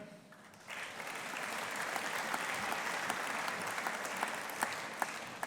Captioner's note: audience applauding